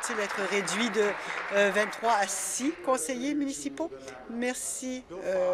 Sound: applause

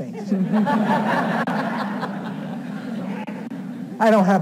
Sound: audience laughing

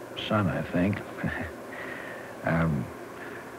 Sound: laughter

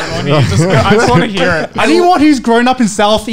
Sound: laughing loudly

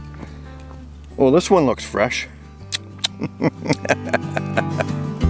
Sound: chuckles

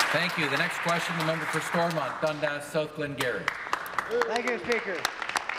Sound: applause

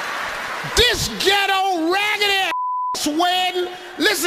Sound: beeps

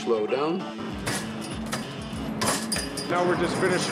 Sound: metal clinking

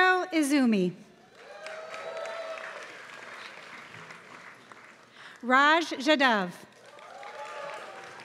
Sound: applause

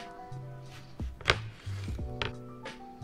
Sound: chopping; relaxing music

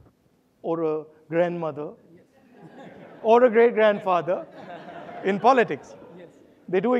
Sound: audience laughing

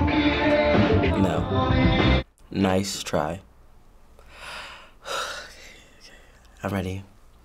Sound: exhales shakily

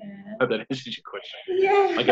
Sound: chuckling

